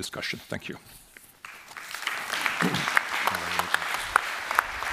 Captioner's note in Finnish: Applause